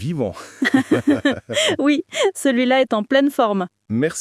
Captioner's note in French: rire